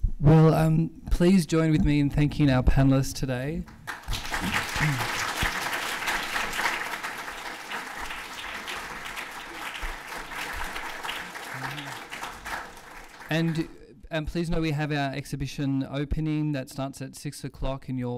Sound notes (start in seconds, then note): 3.6 applause